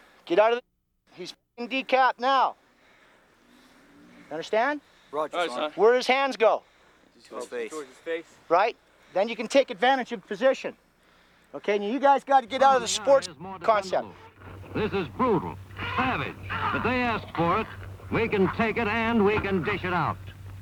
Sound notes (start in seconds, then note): 5.4 voiceover; 7.6 voiceover; 14.9 voiceover